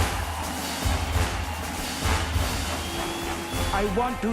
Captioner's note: crowd applauding